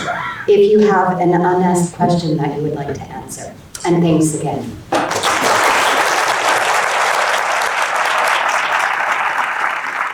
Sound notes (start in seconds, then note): 5.0 audience applauding